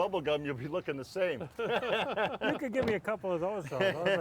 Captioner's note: laughing